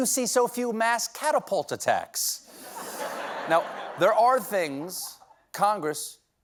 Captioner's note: laughter